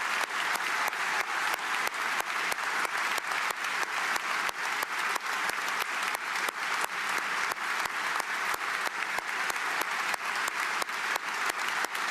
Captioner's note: applause